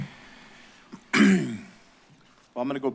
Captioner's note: clears throat